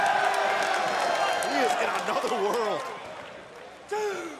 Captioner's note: crowd cheering